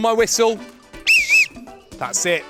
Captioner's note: whistle blows